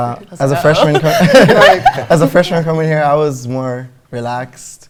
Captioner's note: laughter